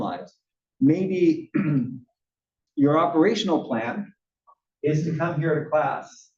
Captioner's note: cough